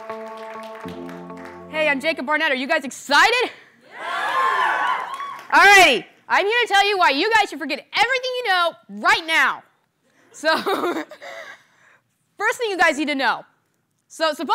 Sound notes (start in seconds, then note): 3.9 cheers